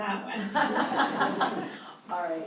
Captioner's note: all chuckling